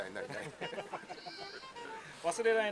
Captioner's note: laughs